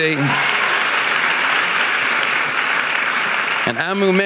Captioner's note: audience applauding